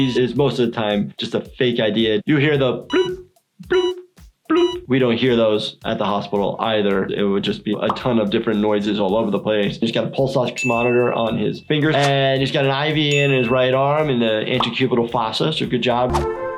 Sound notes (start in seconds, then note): 3.6 blooping; 16.0 instrumental music